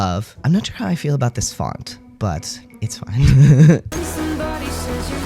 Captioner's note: laugh